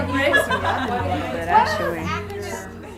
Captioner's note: laughter, talking